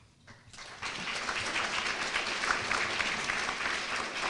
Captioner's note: applause